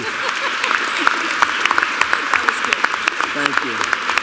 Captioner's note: applause